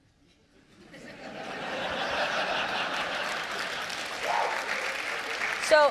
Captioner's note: audience laughter